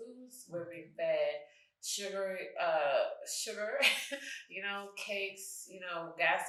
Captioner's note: chuckles